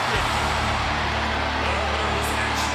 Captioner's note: crowd roars